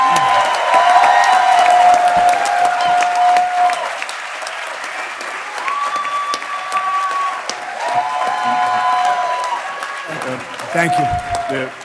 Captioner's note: applause